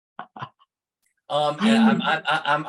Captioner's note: laughs